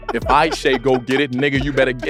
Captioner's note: laugh